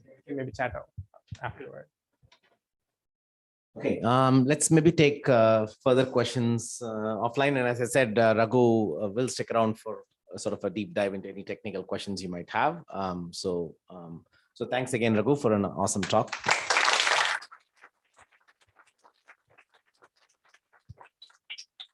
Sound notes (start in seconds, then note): 16.0 applause